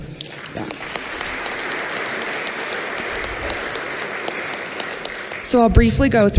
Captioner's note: applause